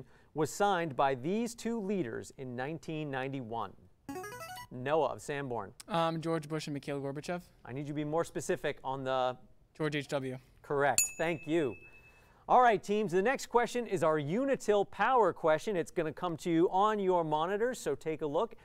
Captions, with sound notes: was signed by these two leaders in 1991. [player buzzer] Noah of Sanborn. George Bush and Mikhail Gorbachev. I need you to be more specific on the-- George H.W. Correct. [ding] Thank you. All right teams, the next question is our Unitil Power question. It's going to come to you on your monitor, so take a look.